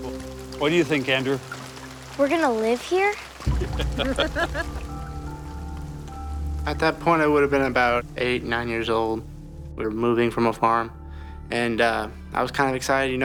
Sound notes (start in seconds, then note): 3.5 laughing